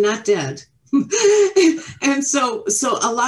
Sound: all laughing

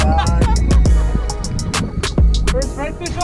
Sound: laughs

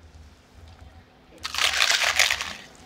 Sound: crunch

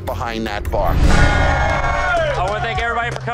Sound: cheers

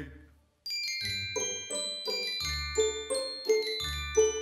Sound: bells jingling

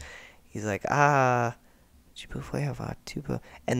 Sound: muttering in bad French

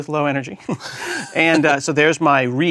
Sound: laugh

